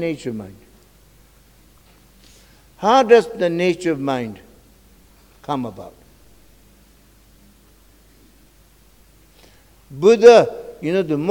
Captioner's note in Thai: กล่าวภาษาทิเบต